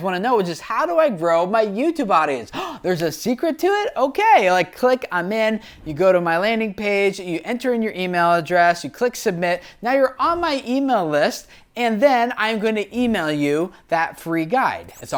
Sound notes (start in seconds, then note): 2.5 gasps